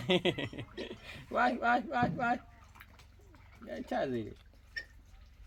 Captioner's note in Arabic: ضحك